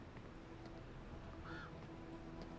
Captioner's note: bird cawing